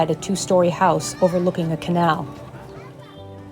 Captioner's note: excited children's voices